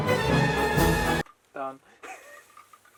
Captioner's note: heehee